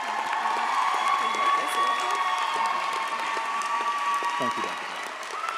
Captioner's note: audience applauds; audience cheers